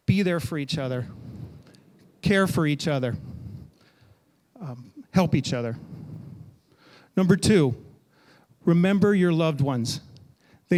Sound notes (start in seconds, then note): none